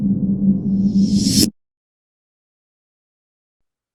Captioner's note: buzzing